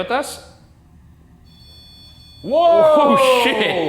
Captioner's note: device beeping